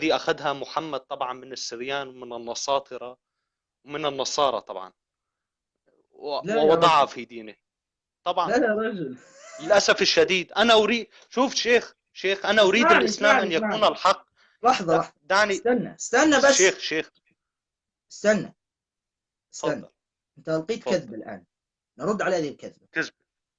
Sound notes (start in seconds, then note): 9.3 laughter